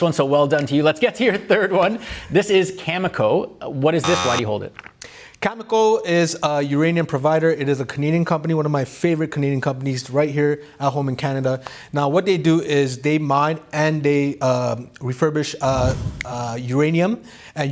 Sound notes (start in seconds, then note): 4.0 buzzer buzzes